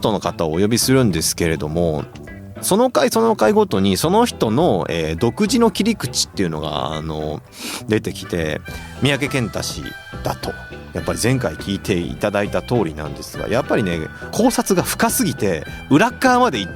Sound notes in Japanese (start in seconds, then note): 7.4 鼻息